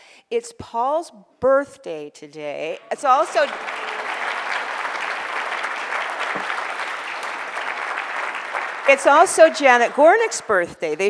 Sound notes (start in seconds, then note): 4.3 audience applause